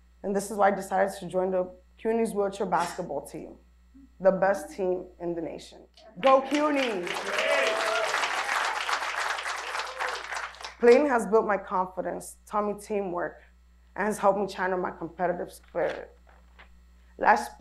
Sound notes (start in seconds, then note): 7.9 applause